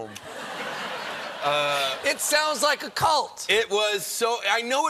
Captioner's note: laughter